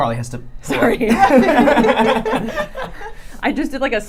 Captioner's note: drown out by laughter